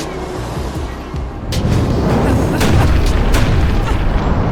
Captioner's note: fire blazes